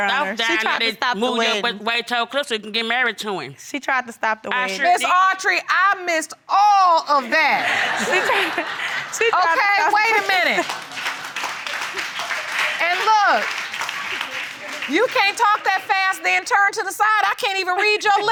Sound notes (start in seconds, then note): 7.3 audience laughing; 10.4 audience applauding faintly